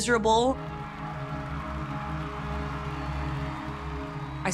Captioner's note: audience applauding and cheering